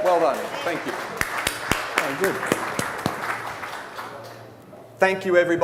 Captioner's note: audience applauding